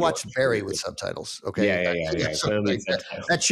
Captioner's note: laughs